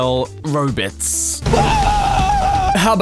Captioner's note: dying horribly while getting vaporized